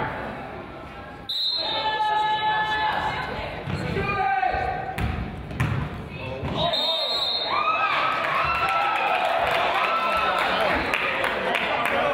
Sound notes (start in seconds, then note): 1.3 whistle blows; 6.6 whistle blows; 7.9 crowd applauds